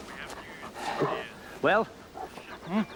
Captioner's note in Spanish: hombre hablando por teléfono